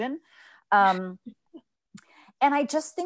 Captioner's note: laughs